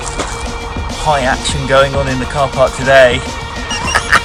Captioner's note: energetic music; laughs